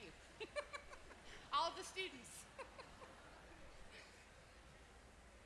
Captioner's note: laugh